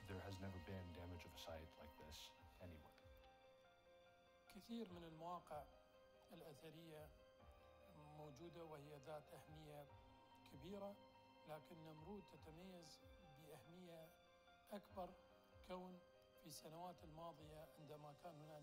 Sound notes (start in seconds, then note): 4.4 foreign language